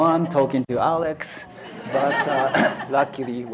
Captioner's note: audience laughs